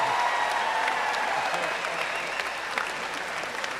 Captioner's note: cheers and applause